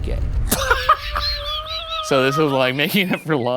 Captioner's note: laughing